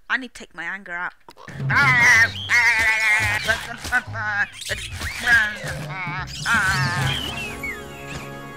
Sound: battle noises

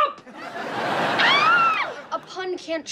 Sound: screams

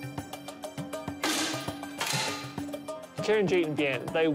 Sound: rifle fires

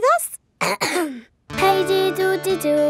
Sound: clears throat

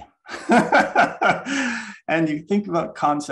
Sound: laughs

